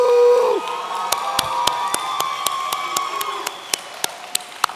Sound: audience cheering

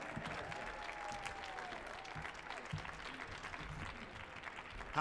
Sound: crowd applauding

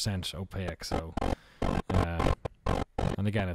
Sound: distortion

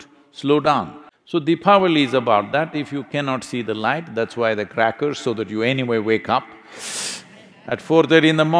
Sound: laughter

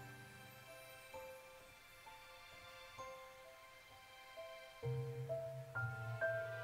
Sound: angel Chimes

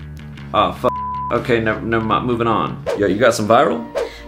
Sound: beeps

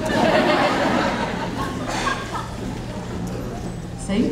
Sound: audience laughing

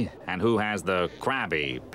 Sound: none

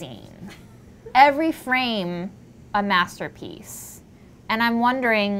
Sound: woman laughs

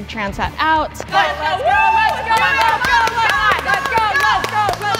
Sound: encouraging cheers

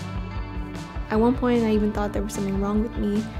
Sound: none

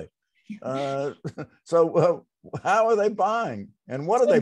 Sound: chuckles

